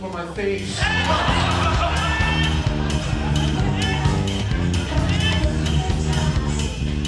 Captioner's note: upbeat music continues; audience laughs